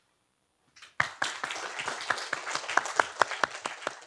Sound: applause

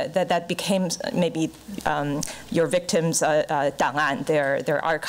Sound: foreign language

